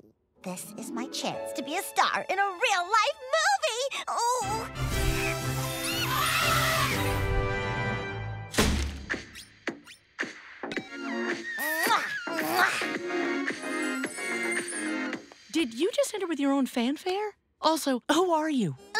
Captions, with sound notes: - This is my chance to be a star in a real-life movie! Ooh! [adventurous music] [wild animal noises] [pop music plays] Mwah! Mwah! - Did you just enter with your own fanfare? Also who are you?